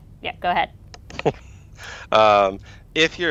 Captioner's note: laughs